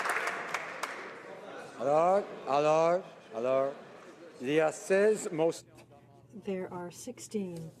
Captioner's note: applause